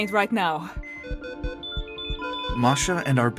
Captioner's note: medical beeping and alarms